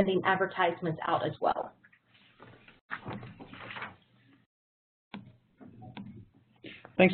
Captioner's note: pause